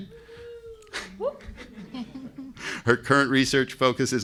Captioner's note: participants laughing